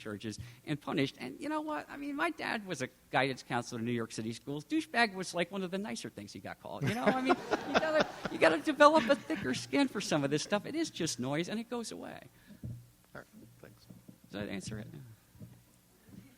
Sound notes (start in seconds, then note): 6.9 audience laughter; 13.6 silence